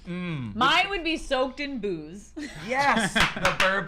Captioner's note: laughs